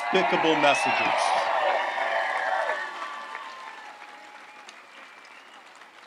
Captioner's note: audience applauds and cheers